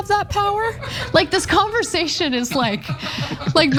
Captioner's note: laugh